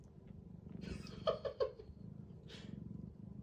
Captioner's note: chuckles